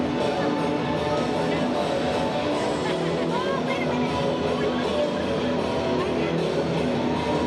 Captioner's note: crowd chattering; dramatic music continues